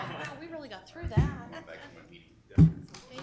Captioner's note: people talking; chuckles